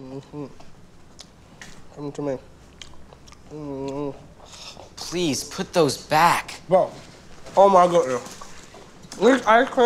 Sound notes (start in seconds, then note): 2.6 chewing